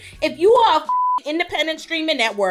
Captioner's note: beep